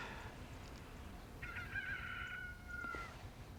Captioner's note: rooster crowing